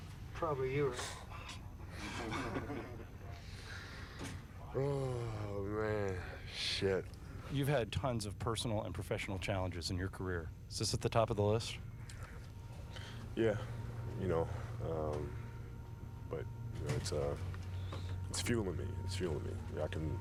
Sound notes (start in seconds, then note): 2.0 subdued laughter; 4.8 sighing